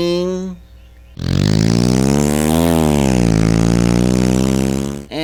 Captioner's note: engine sound